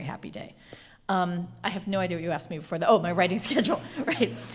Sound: laughing

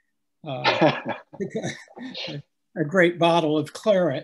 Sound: laughing

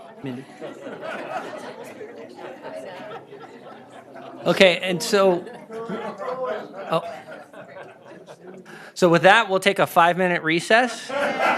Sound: laughter

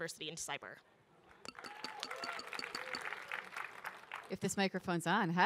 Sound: audience applaud, cheer

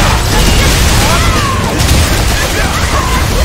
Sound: tornado

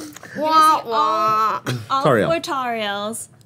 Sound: imitates trombone

